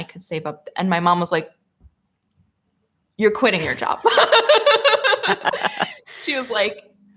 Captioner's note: laughs